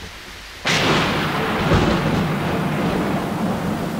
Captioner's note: Thunderclap